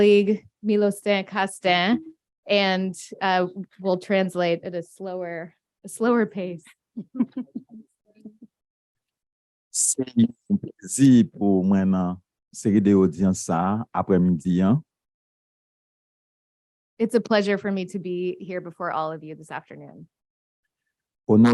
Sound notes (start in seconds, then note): 11.3 speaking a foreign language